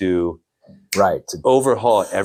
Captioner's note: snaps